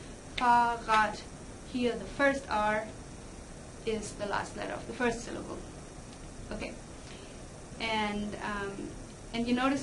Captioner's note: clap